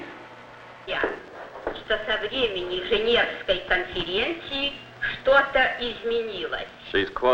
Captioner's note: female speaking foreign language